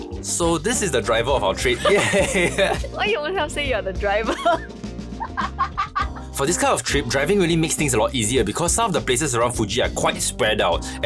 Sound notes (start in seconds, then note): 1.7 chuckles; 5.2 chuckles harder